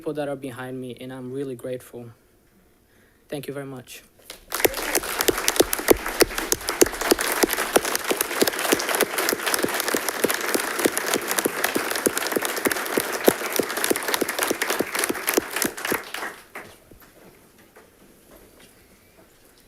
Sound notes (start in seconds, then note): 4.4 audience clapping